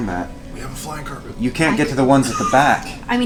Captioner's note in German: flüstert